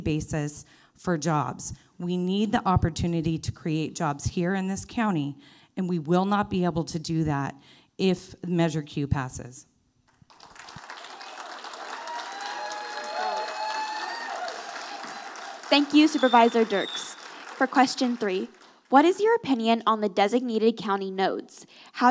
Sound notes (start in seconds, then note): 10.2 audience applauding